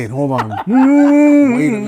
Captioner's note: laughing